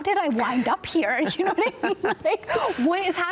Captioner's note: both laugh